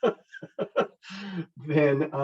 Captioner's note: chuckles